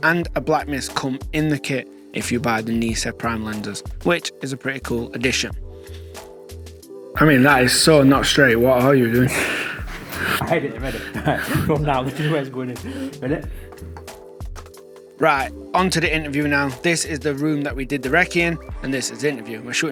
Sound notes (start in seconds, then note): 11.6 laughing